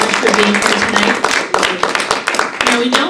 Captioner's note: applause